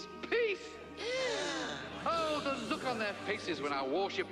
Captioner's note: all gasp